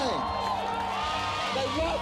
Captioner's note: crowd cheering